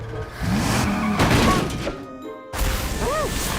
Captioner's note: engine revs, tires squeal; crash